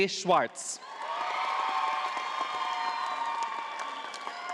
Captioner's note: audience applauding